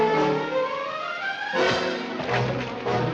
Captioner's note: thudding